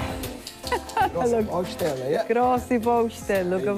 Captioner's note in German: Lachend